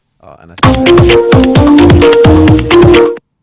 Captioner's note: phone Ring!